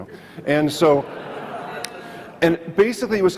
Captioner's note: audience laughs